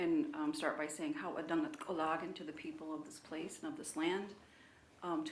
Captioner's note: speaking in own language